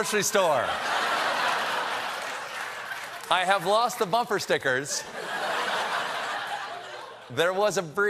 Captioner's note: laughter